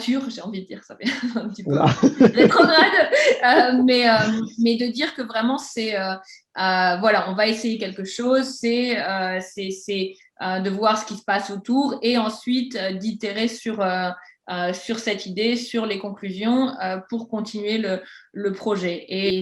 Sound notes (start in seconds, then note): 1.6 laughing in cheese